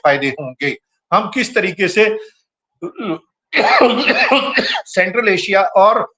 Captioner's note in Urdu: گلا صاف کرتا ہے; ہنسی